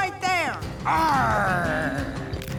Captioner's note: gasps